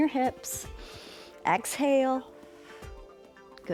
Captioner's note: inhales